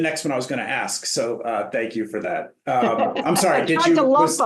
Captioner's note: laughter